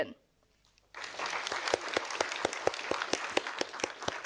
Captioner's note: audience applauding